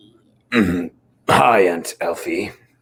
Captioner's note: Dominic's throat clearing